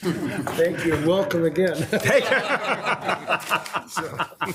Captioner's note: laughs